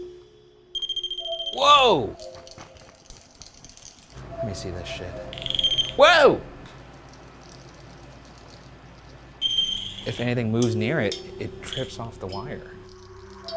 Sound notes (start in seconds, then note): 0.7 eerie music; 0.7 wire ringing; 3.1 rods rattling; 5.5 wire beeps; 13.3 eerie music; 13.3 rods rattling